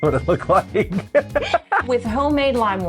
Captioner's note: laughter